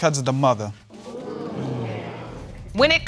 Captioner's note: audience murmuring